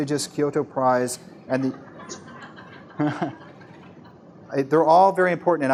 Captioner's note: laughter